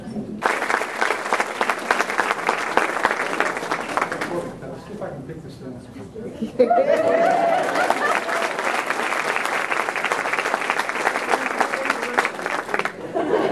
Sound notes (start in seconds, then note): 0.4 applause; 6.7 cheering; 7.0 applause